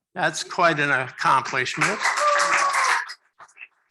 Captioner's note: applause